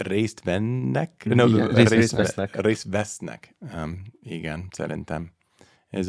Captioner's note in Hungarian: idegen nyelven beszélve